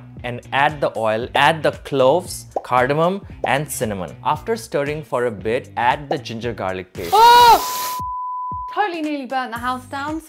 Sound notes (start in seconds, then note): 7.6 beeps